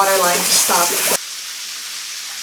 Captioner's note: water pours out of holes